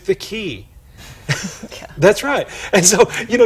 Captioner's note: chuckle